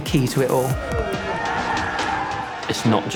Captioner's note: team cheers